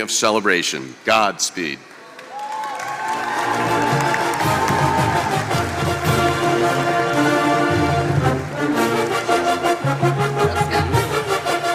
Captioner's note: applause